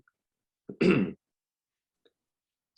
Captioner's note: clears throat